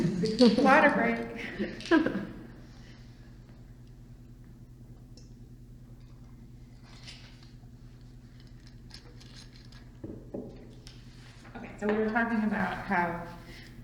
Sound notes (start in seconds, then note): 0.0 laughs